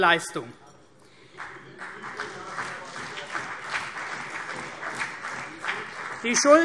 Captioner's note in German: Beifall CDU und vereinzelt BÜNDNIS 90/DIE GRÜNEN